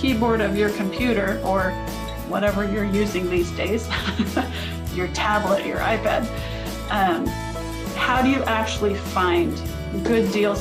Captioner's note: laughs